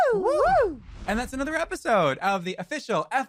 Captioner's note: cheering